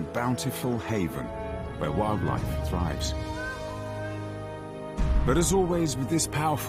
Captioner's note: intense music; birds cawing